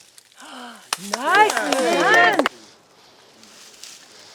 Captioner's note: applause